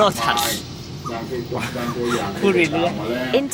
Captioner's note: laugh